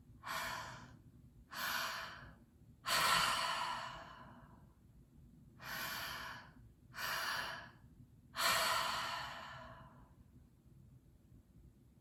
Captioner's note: breathing